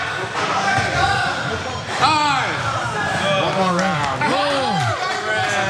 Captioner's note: applause